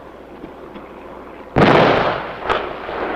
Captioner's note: explosion